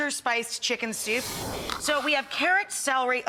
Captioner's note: whooshing